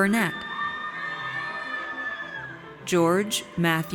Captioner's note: audience cheers